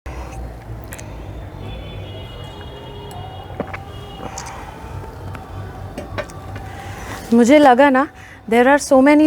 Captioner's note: cars honking in the background